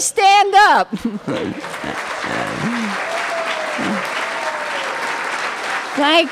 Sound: applause

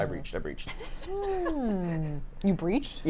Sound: laughs

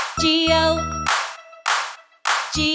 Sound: clapping

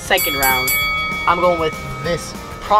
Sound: bell dinging

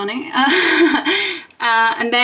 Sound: laughs

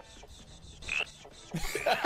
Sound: ribbit

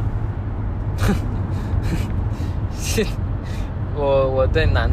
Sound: awkward laughing in "wtf did I just say-"

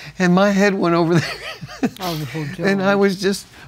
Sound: laughs

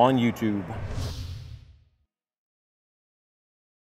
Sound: whoosh

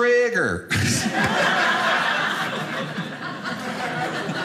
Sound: audience laughing

